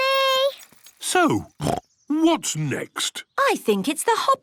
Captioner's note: snorts